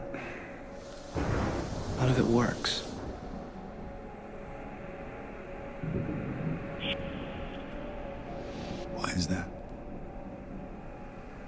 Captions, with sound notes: It's that none of it works. (thunder rumbles) - Why is that?